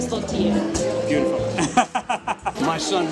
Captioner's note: laughs